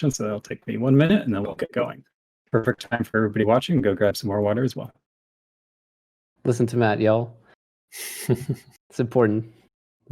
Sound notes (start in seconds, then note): 7.9 chuckles